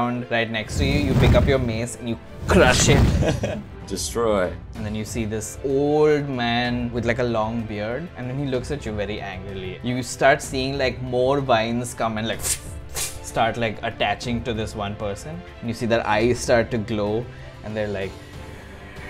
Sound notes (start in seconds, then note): 3.0 laughs; 12.9 whip